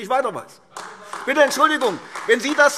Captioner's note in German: Beifall